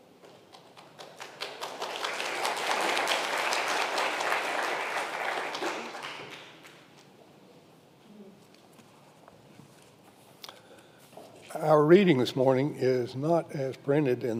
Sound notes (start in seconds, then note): 0.6 congregation applauds